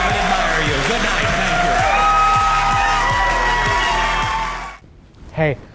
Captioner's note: audience cheering